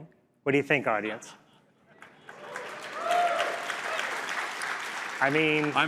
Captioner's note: applause